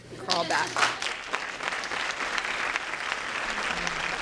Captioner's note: applause